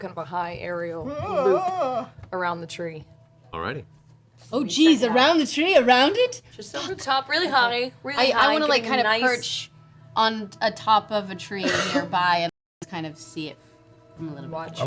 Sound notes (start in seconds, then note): 1.0 worried noise